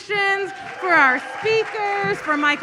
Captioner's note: audience applauds